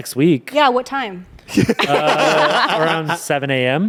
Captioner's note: everyone laughs